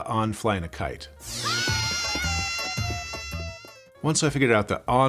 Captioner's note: yelling